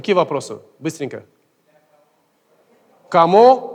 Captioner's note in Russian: голоса из зала